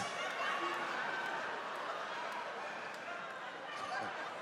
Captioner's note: audience laughing